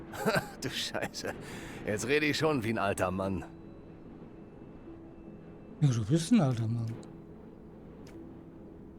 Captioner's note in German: gelächter